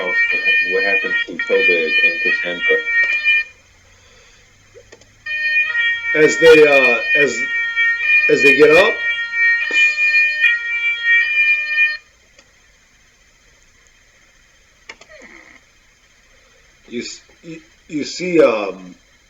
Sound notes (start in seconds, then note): 3.2 the police sirens grow louder--come closer!